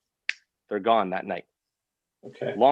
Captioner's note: snaps fingers